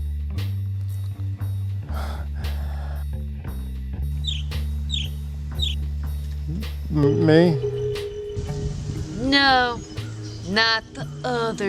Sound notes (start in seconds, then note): 4.2 bird chirping